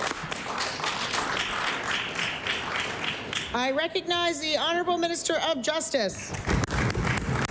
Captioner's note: applause